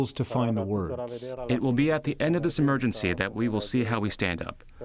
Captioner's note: through translator